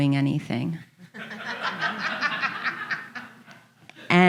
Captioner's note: audience laughing